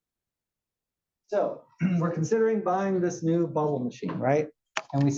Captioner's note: cough